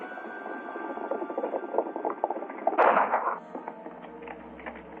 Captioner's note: gunshots and horses galloping